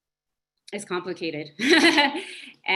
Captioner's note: laughs